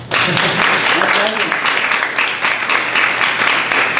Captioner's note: people clapping